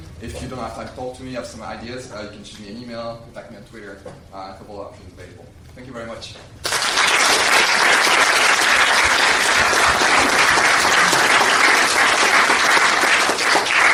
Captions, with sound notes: If you don't have time, talk to me, I have some ideas. You can shoot me an email, tag me on Twitter, a couple of options available. Thank you very much. (applause)